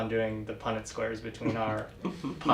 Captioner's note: laugh